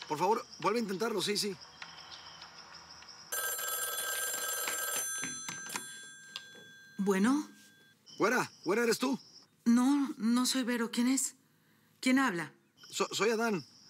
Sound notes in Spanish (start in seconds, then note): 3.3 suena el teléfono